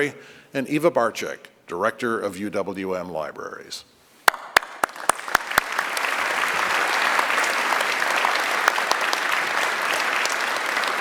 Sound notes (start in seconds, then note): 7.2 applause